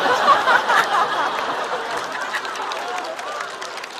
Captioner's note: haha